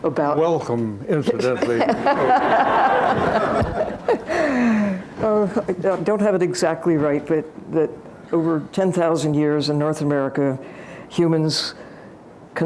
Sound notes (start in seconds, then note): 1.6 laughter